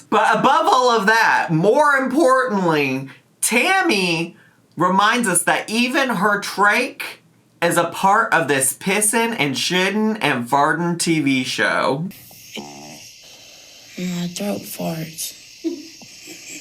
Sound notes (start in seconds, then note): 12.1 trache tube hisses and croaks